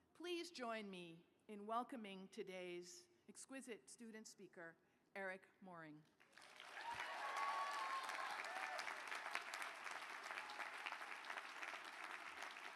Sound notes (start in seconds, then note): 6.2 applause